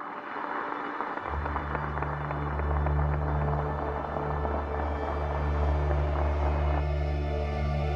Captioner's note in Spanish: Aplausos